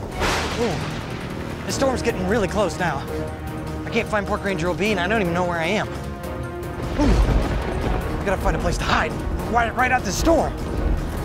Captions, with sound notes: (thunder cracks) - Ooh! The storm's getting really close now. I can't find Park Ranger LB and I don't even know where I am. (thundering) Ooh! I gotta find a place to hide, try to ride out this storm.